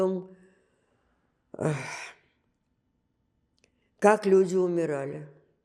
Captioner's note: sighing